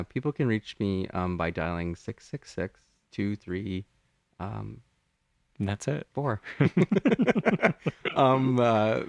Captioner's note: laugh